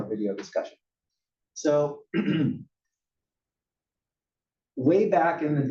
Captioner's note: cough